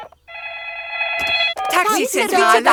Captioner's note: dialing; phone ringing